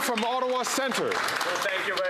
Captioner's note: some Applause